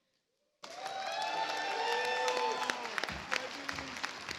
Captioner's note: audience applauds